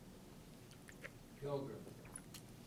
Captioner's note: voiceover